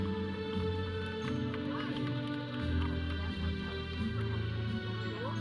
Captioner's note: audience clapping